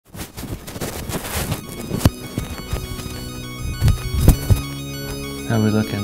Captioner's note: microphone static; dramatic electronic music